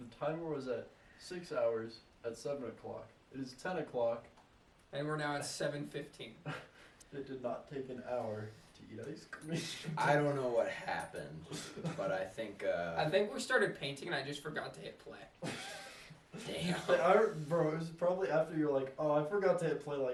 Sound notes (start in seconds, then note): 15.5 wheeze